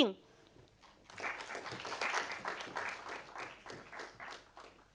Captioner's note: audience applauding